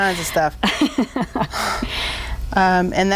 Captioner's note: laughing